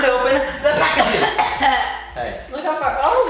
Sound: coughing

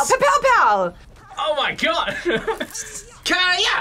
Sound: laughs

